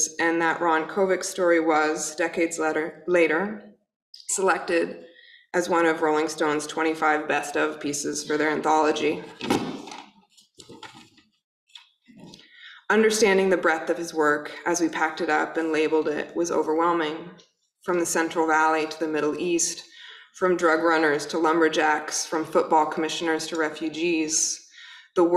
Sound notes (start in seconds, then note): 9.3 thudding